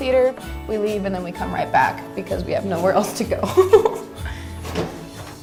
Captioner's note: laughs